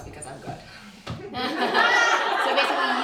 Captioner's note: laughter